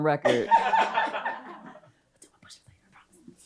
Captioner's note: and audience laughs